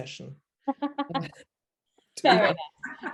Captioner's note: laughs